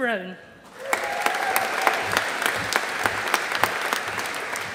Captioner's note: audience applauding